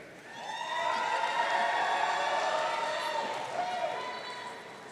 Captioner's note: audience cheering